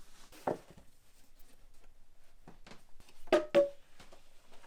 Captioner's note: blocks clanging